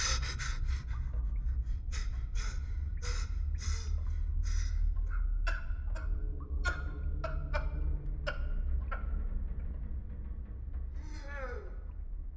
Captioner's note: sobbing